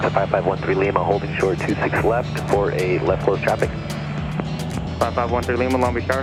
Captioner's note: air traffic control speaks over radio